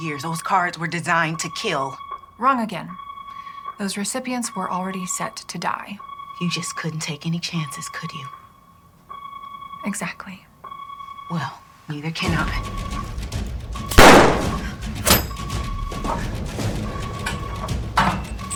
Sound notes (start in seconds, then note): 13.9 gun firing; 14.7 dramatic music